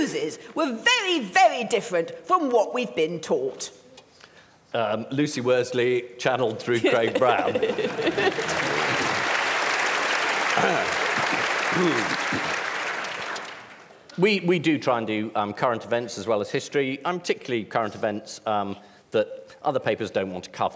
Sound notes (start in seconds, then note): 7.8 applause